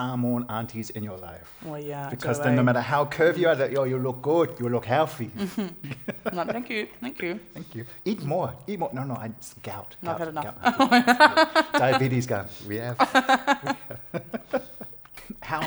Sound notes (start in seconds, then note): 5.3 laughter; 12.8 laughter